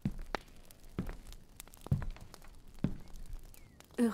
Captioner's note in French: bruit de feu de cheminee